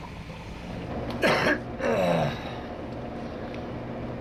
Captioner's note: coughs, Clears Throat